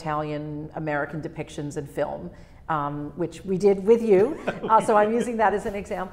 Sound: laughs

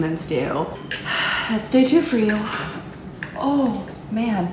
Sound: sighing

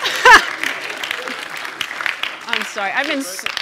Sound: laughing; audience applauding

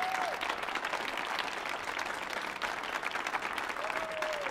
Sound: audience applauding

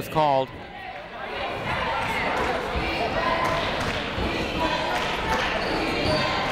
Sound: people chanting in the crowd

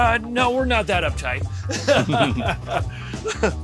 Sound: both laugh

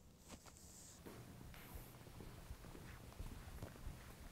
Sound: footsteps

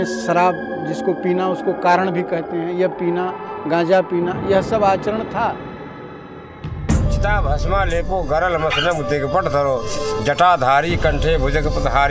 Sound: speaking sanskrit

